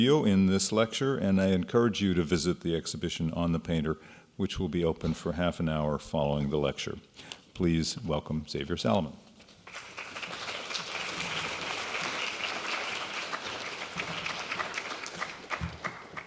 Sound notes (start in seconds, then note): 9.6 clapping